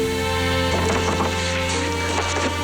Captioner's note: knocking